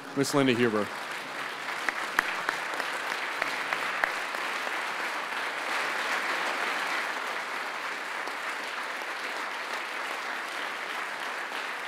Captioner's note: applause